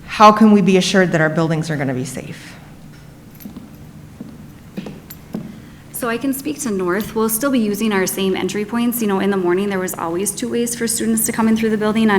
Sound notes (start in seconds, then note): 4.7 foot steps approaching